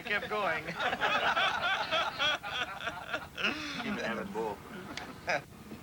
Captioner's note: laughter